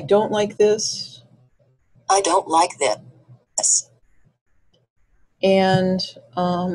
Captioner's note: voiceover